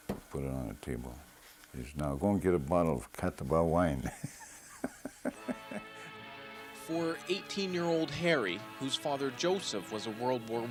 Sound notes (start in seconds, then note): 4.0 laughs